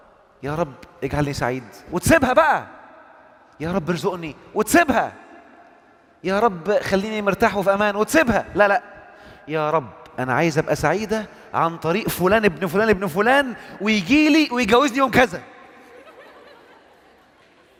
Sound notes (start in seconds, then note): 15.9 laughing!